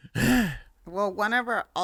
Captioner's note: breathing heavily